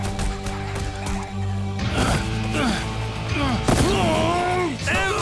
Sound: grunting

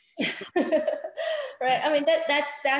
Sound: laughs

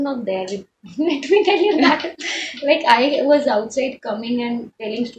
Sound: laughs

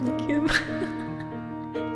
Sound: laugh

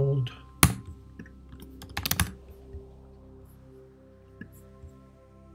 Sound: keyboard clicking

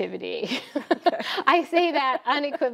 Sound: laughs

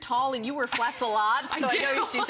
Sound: laughter

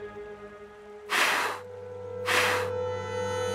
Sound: blowing

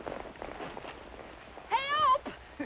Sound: laughs

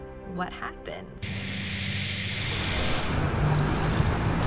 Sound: plane engines roaring; street traffic

